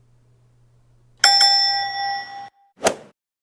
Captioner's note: ding-ding sound effect; golf swing sound effect